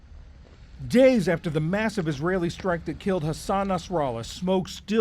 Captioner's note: voice-over